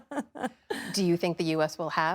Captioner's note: laughter